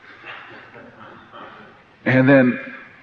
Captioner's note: laughter